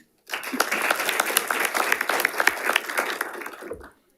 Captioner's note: audience applauding